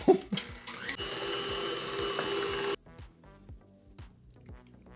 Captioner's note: Kitchen Aid whirring